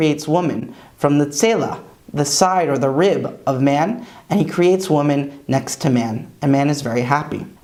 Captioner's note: Hebrew